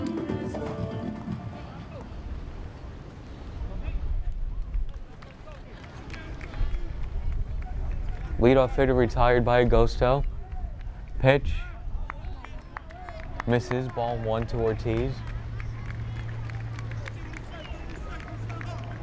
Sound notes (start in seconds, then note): 0.0 uptempo Latin music; 4.9 players clapping